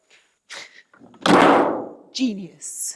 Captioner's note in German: Wannenklappern